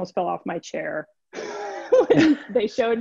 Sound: laughs

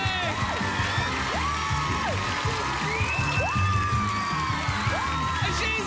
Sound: cheers and applause

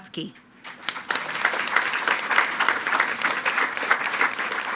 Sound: attendees clapping

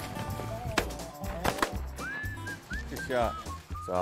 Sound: shots go off

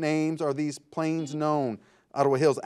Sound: buzzer buzzes

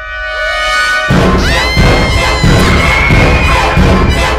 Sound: screaming

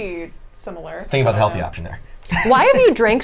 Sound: laughs

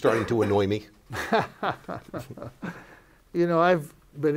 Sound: laughs

